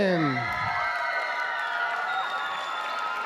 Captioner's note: applause